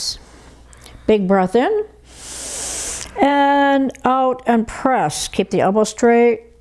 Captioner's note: inhales